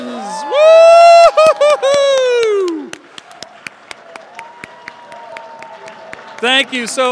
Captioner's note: applause and Cheers